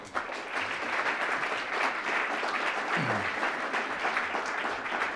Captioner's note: applause